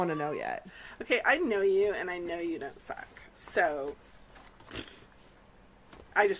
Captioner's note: blows raspberry